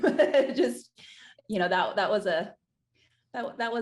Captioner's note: laughing